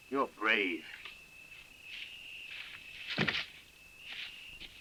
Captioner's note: insects chirring